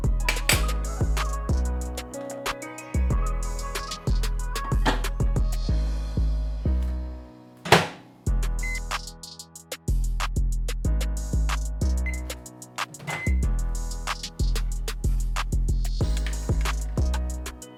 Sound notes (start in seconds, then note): 0.1 fork clangs; 4.9 container clatters; 7.6 door clicks; 8.5 microwave beeps